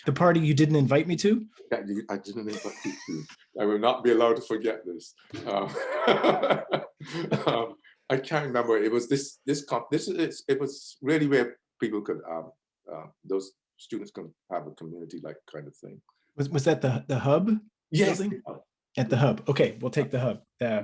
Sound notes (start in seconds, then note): 2.0 laughs; 5.3 laughs